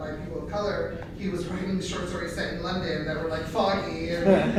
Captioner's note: laughter